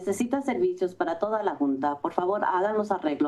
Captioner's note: foreign language